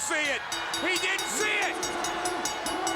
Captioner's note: bell ringing